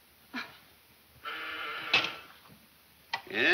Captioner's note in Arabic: صوت طنين جهاز الاتصال الداخلي